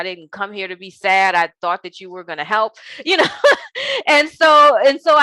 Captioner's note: chuckles